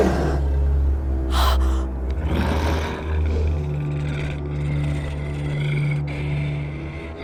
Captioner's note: ominous music; Heather gasping; Brad growling